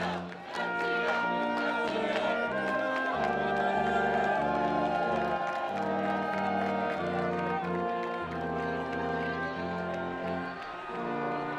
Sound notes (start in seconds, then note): 3.1 students cheering and screaming